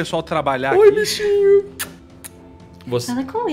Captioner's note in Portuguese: beijo